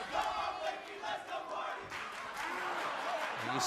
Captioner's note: fans chanting